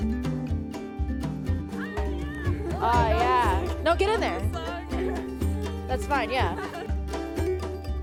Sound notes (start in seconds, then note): 2.0 guests laughing